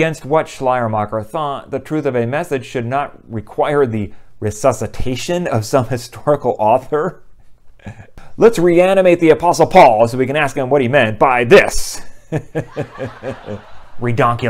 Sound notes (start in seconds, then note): 12.2 people laughing